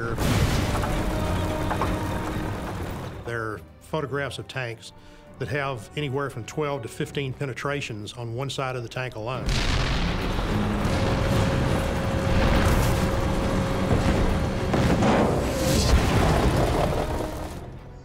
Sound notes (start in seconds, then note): 0.0 cannon shots exploding; 0.0 fire crackling; 9.6 cannon shots exploding; 9.6 turret whirring into position